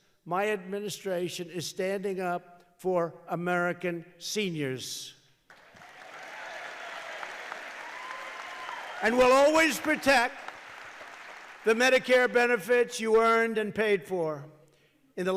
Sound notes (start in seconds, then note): 5.5 applause